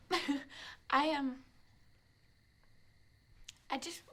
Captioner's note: giggles